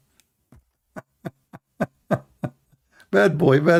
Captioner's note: Ketawa